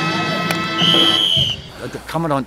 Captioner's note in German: Pfiff